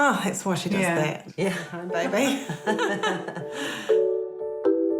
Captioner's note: laughs; all laugh